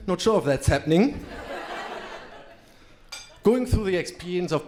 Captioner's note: crowd laughing